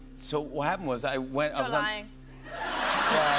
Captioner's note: laughter